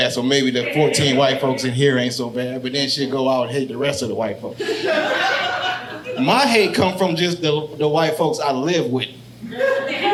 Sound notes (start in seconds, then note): 4.6 audience laughing